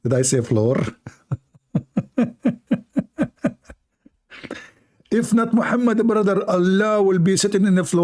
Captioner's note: Ketawa